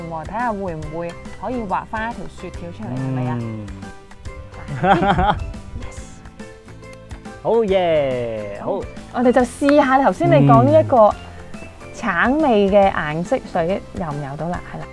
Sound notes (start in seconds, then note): 2.8 laughing; 7.7 Cantonese